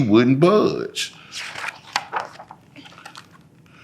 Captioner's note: pages rustling